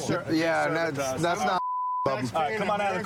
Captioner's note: chatter